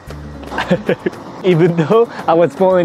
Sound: chuckles

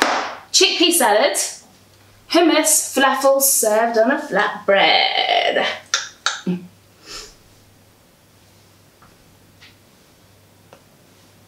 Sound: laughing

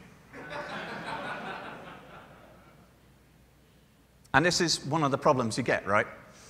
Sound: laughter

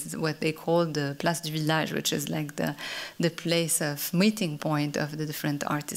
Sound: french

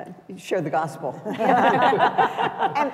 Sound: laughter

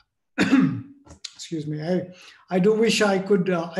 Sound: cough

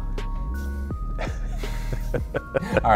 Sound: laughter

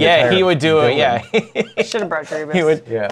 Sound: laughter

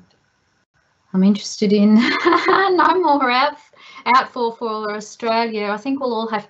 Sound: laughs

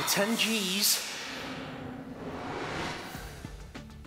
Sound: whooshing

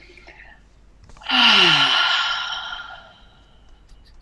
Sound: sighs

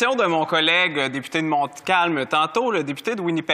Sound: speaking French

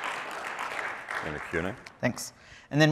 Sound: applause

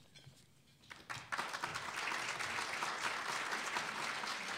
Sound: applause

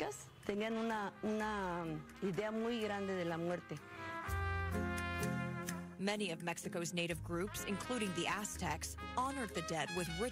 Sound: speaking spanish; speaking spanish

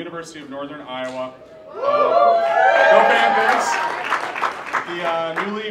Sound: cheering

